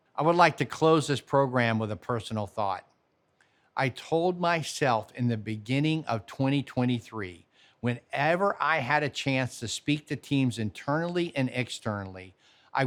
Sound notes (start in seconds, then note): none